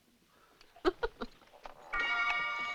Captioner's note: chuckling